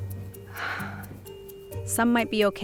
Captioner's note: sighs